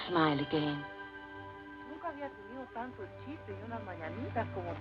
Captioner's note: woman speaking Spanish